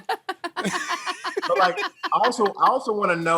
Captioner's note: laughing